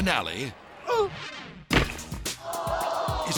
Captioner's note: grunting; thudding; crowd gasping